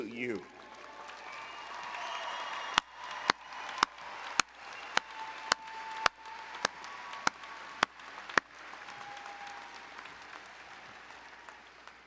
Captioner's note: applause and Cheering